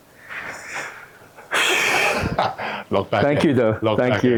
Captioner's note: laughs